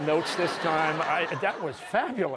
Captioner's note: laughter